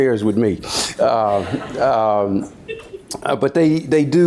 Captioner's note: audience laughs